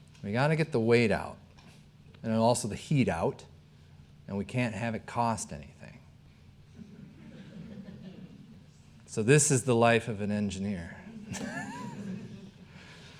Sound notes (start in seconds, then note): 6.7 audience chuckling; 11.1 chuckling